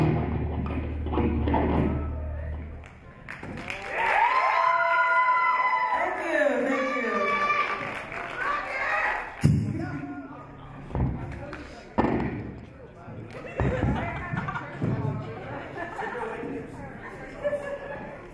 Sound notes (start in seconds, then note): 3.3 audience cheer; 12.3 audience chatter